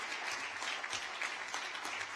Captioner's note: applause